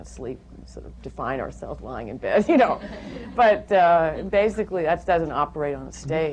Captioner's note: laughter